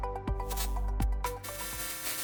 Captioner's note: upbeat music; electric buzzing